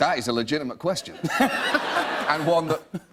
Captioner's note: laughter